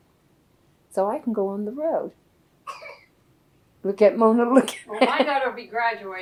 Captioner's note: laughs